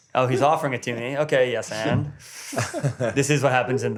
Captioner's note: inhales